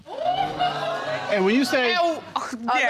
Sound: audience groaning

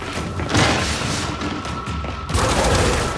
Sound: gunfire

